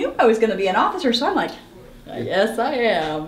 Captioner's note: sighs